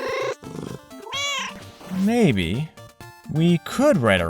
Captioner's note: meow